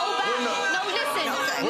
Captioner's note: audience exclaiming